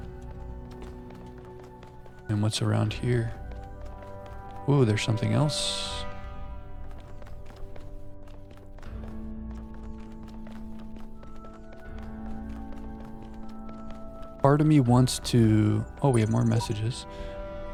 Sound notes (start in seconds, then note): 6.1 footsteps